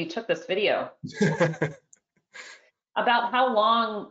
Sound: laughs

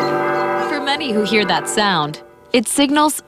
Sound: nat sound bell

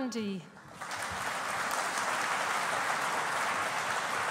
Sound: audience applauding

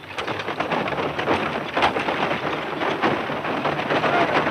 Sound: wagons rattling loudly

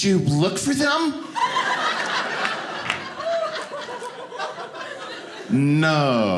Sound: audience laughing

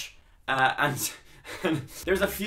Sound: chuckles

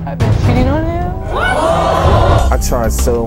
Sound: audience screaming

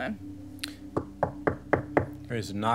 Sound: knocking

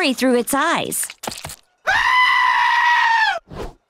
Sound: bleating

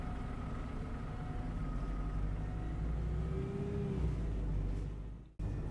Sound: bus Taking off

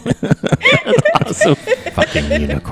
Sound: laughter

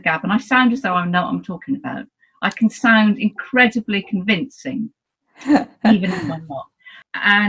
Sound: laughs

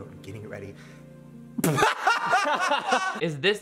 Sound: Shane laughing

